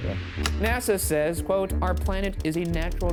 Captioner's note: slide projector clicks